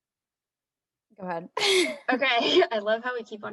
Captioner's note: laughs